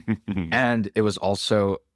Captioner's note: laughs